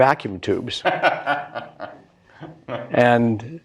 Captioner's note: laughs